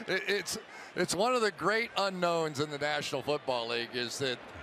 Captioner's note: laugh